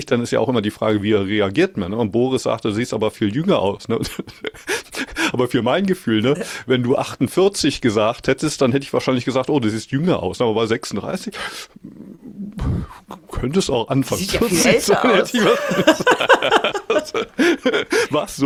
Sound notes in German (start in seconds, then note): 4.0 gelächter; 15.2 gelächter